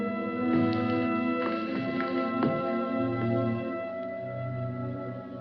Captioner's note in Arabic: خطوات